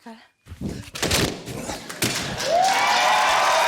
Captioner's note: grunts; pop!; cheering, applause